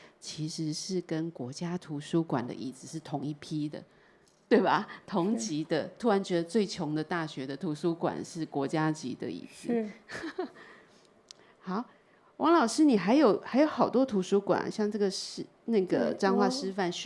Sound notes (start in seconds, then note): 10.1 laughter; 10.2 Mandarin